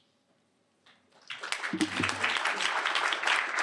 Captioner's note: applause